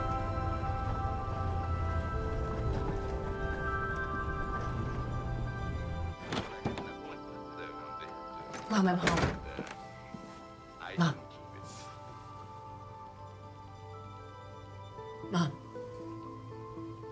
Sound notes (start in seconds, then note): 6.2 door creaks open